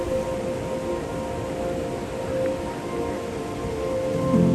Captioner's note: wave sounds and quiet music